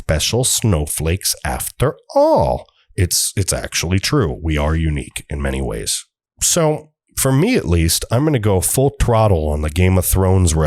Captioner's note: cutesy voice